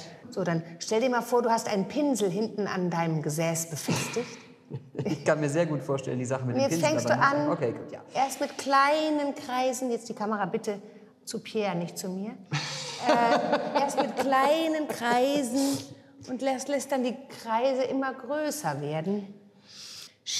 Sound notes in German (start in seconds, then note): 12.5 lacht